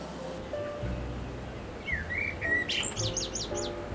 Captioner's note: birds Chirping